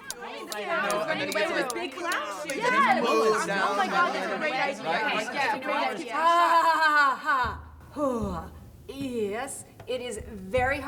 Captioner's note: chatter